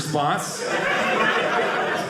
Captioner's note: audience laughing